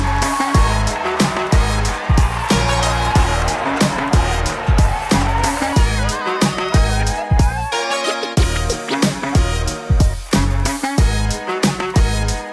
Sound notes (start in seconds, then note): 0.1 upbeat music; 2.1 audience cheering; 5.7 upbeat music continues